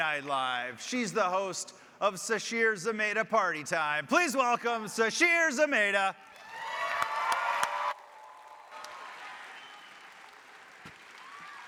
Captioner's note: applause